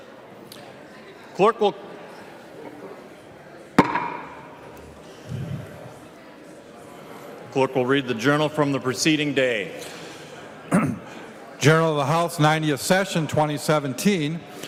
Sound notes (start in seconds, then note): 7.2 gavel